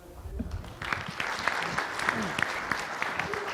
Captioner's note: applause